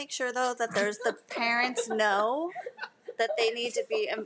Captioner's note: group laughing